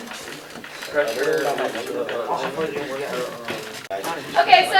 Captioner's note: chatter